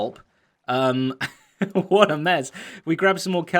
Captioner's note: chuckles